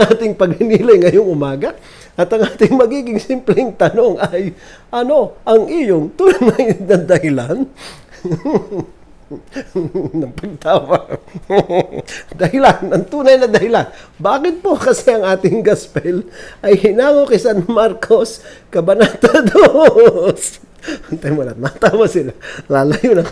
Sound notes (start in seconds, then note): 0.1 chuckling; 2.9 laughing; 6.2 snigger-chortle; 8.1 sniggering; 9.3 laughing